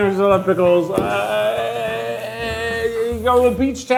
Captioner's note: groaning